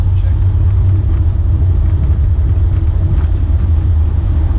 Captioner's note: aeroplane engine